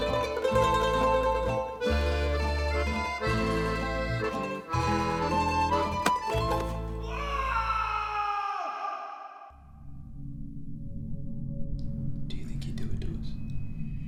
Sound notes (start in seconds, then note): 7.2 shriek